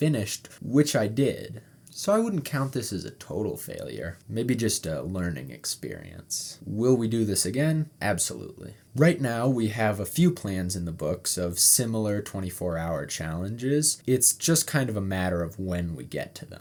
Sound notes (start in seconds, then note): none